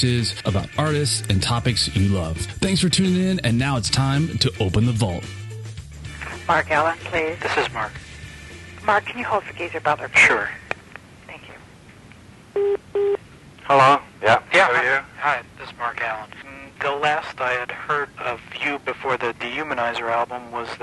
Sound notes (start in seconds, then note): 12.5 phone beeps